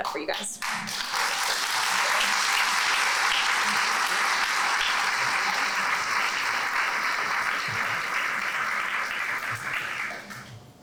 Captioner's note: applause